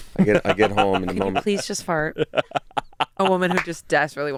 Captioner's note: laughing